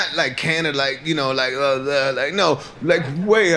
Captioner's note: mocking noise